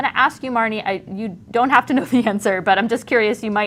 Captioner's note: chuckling